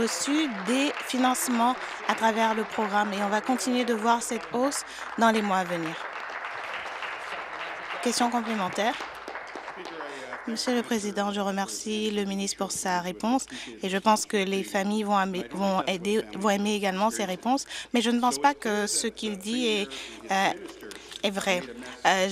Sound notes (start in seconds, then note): 4.7 applause; 9.3 applause